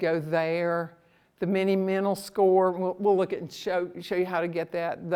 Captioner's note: none